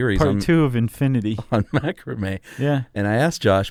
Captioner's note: laughs